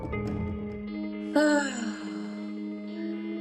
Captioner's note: sighs